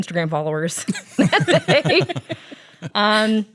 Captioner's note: laughs